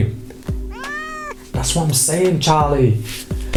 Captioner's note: cat meowing